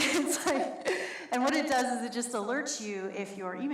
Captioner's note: laughs